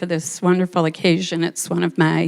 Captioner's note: none